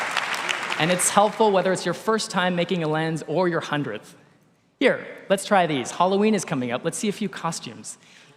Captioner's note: applause